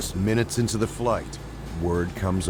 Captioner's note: voiceover